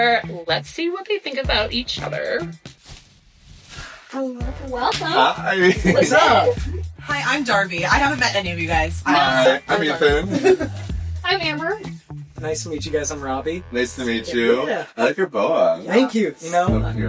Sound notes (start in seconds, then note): 9.2 giggles